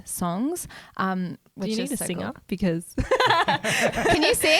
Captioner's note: laughs